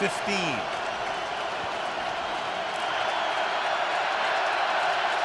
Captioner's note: crowd cheering